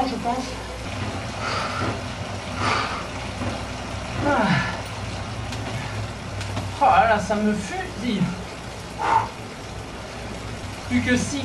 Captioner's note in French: soufflements